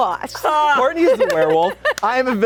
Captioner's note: laughing